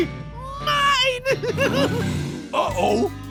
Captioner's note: laughing